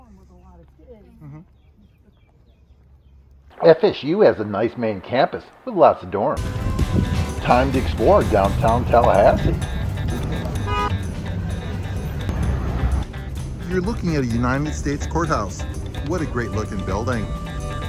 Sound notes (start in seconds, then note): 9.9 light music; 10.8 car horn honks